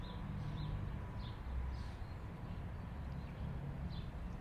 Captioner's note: birds chirping